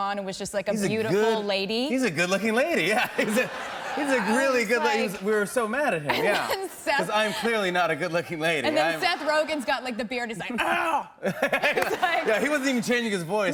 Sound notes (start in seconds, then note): 10.6 deep voice; 11.2 laughs